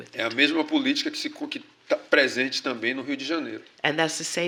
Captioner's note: speaking portuguese